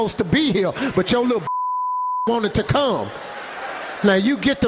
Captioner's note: beeping